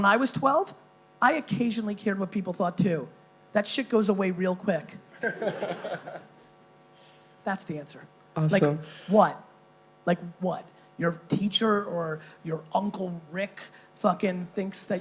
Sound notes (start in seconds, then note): 5.2 laughing